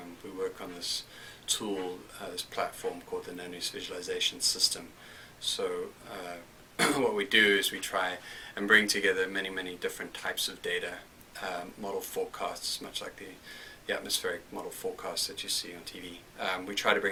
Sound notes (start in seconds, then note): 6.8 cough